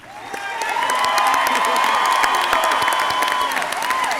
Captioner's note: audience cheering